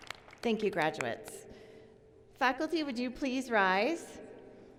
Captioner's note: applause